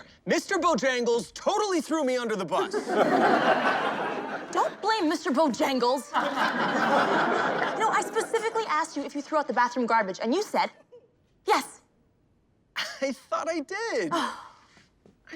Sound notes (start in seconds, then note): 2.6 crowd laughing